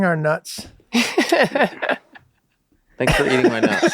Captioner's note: all laughing loudly